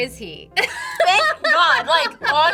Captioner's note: laughs